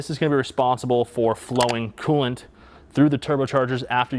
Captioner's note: picture clicks